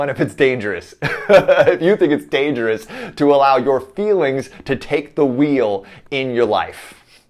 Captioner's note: laughs